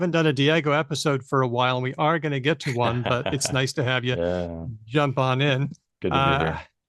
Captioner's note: laughs